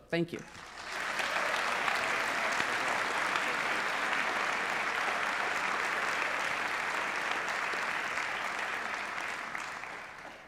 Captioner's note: applause